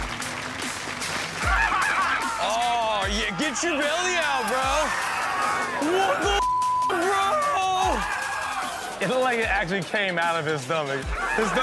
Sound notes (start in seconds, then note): 0.1 upbeat music; 1.5 men laughing; 7.2 men screaming